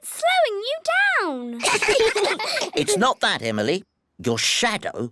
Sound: all giggle

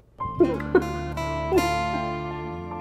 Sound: Ananya laughs

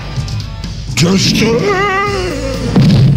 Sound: voice fades out in pain

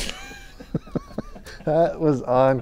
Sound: both chuckling

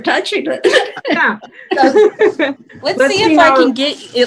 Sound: laughing

